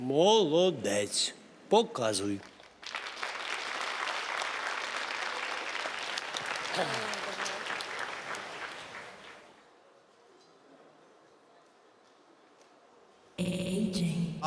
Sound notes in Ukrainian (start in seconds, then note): 2.4 оплески